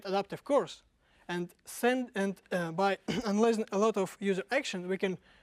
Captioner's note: cough